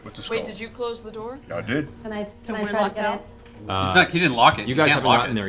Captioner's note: none